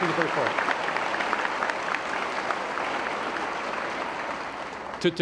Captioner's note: applause